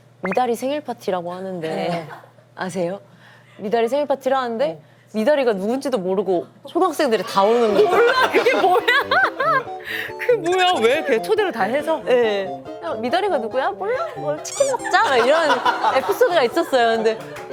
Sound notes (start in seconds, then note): 11.0 laughs